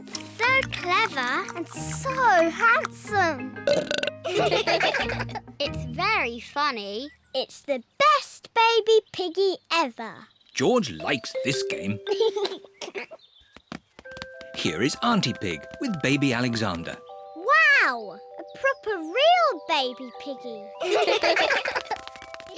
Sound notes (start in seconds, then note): 0.0 giggles; 3.6 burps; 4.2 all laugh; 12.0 giggles; 20.8 all laugh